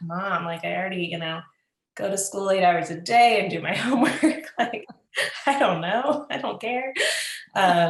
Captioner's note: laughs